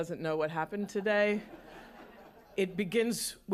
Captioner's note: laughter